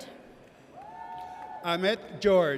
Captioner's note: audience cheers